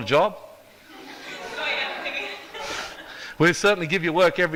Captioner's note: audience laughs